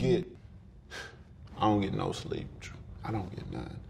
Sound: sighing deeply

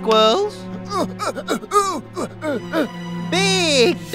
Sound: Bolo grunting

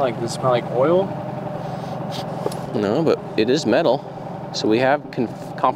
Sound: sniffs

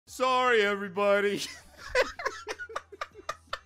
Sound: laughing

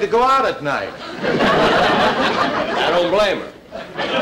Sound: audience Laughing

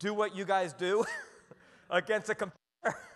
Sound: chuckles

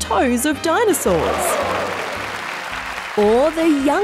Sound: applause

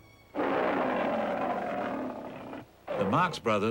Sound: lion roars

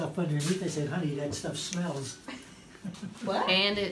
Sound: laughs

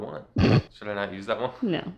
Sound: snorts

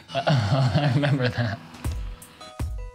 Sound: chuckling

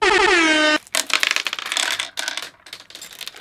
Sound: pitter patter

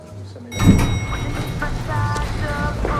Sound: bell rings

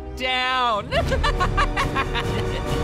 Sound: laughing

